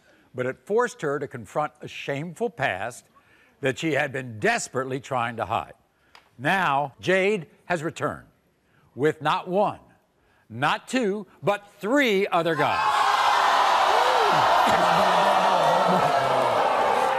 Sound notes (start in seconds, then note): 12.6 crowd jeers